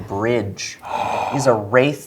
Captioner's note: gasps